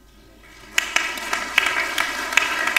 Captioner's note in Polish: oklaski